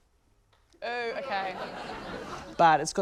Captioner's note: laughter